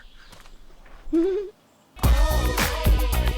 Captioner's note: Sydney giggles